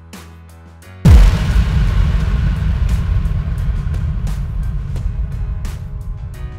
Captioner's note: explosion sound